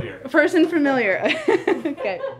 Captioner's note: laughs